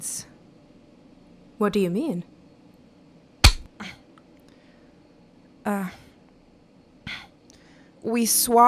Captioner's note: SFX: cutting a thread